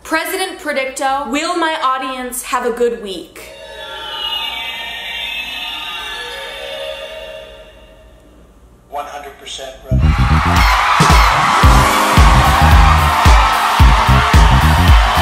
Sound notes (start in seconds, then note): 4.3 whirring; 9.9 crowd cheering; 12.6 upbeat music